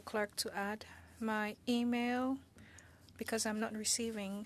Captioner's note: speaking French